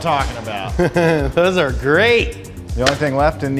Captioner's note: chuckles